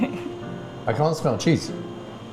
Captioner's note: laughing